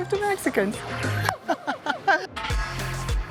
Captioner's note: laughs